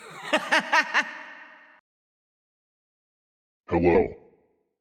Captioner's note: laughing